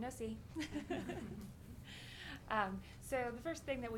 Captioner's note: laughing